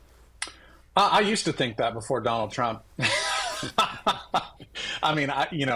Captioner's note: laughs